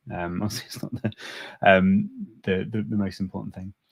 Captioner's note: chuckles